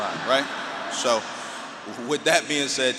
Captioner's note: audience laughing